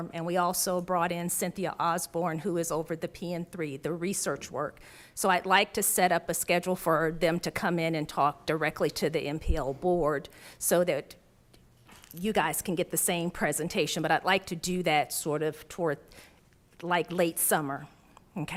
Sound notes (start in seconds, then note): none